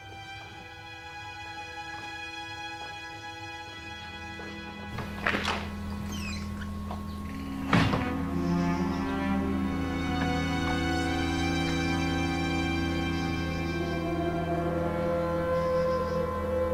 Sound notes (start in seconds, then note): 0.2 soft music; 4.9 door opens; 7.9 door shuts; 10.4 door opens; 13.8 crickets chirp